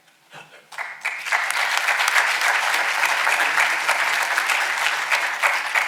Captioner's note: audience applauding